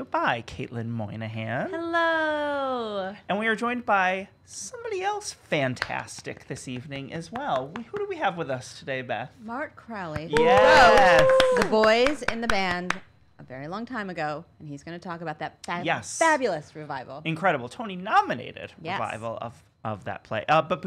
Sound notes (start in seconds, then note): 10.2 clapping